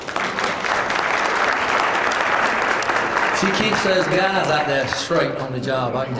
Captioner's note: applause